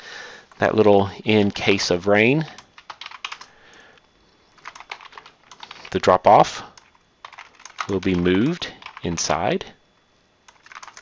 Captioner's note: typing